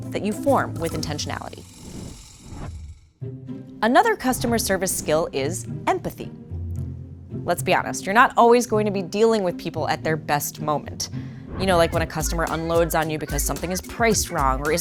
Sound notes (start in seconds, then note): 11.5 customer yelling